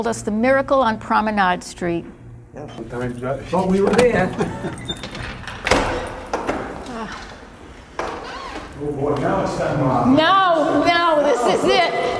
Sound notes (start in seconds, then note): 2.6 chit chatting; 4.5 door squeaking